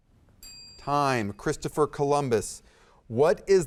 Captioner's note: timer dings